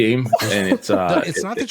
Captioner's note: laughs